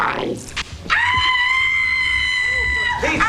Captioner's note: screaming